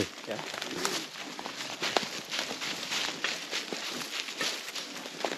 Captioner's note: leaves rustling